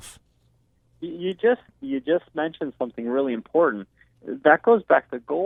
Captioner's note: voiceover